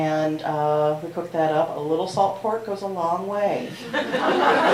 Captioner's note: laughter